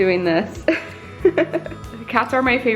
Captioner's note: laughs